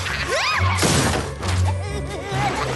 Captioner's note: crash